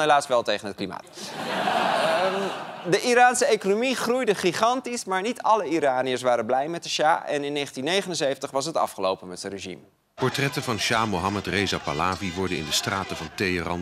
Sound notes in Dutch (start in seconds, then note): 5.4 gelach